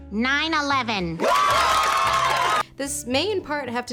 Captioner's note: crowd cheers wildly